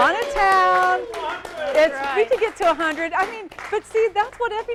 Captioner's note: applause